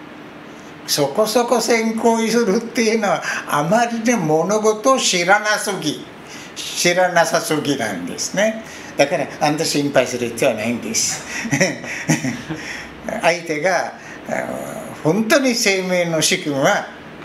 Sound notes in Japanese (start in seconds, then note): 11.3 笑い声